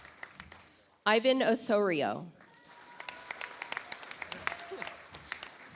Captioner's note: audience applauds